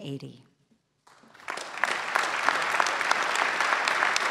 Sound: clapping

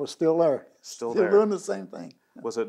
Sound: laughs

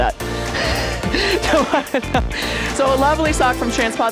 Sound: laughs

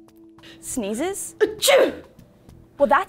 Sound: achoo

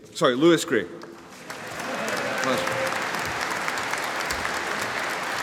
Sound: audience applauding

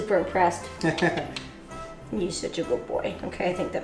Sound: laughs

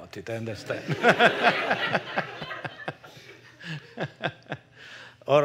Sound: laughter

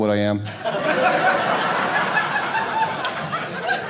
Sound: audience laughing

